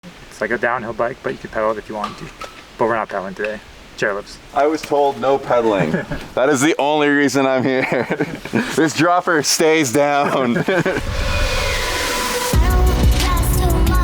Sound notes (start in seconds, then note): 7.4 laughs; 11.6 upbeat pop music